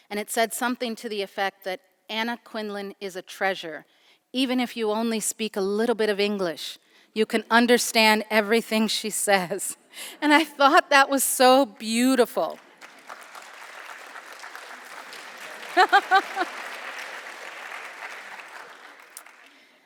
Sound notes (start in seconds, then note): 12.5 applauding; 15.7 chuckles